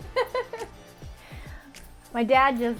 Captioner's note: soft music; laughing